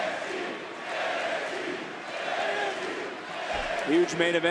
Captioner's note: crowd chants "nxt"